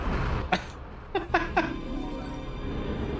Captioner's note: lets loose a chuckle !